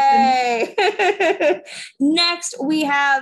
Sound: laughing

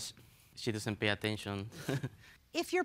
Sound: chuckles

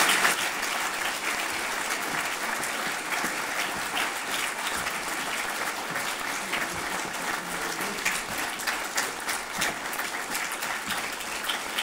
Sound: applause

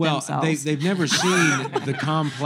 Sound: laughter

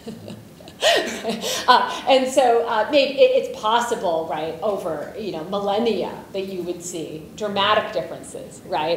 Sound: laughs

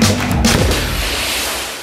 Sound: gunshot

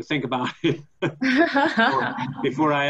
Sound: laughing

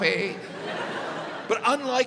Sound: audience laughs

